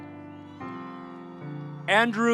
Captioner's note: audience cheering